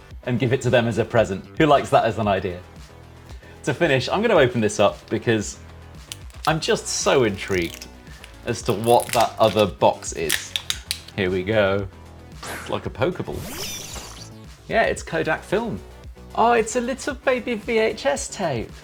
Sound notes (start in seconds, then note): 13.4 Pokéball sound effect